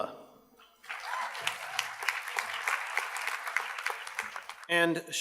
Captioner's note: audience cheers and applauds